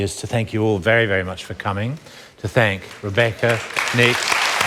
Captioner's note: applause begins